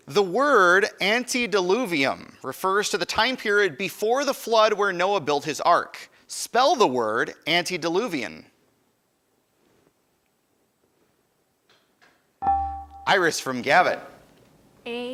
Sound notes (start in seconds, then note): 12.5 buzzer dinging